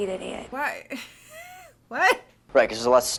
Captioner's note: laughs